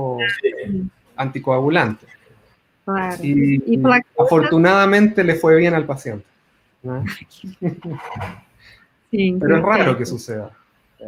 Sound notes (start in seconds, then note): 2.9 multiple voices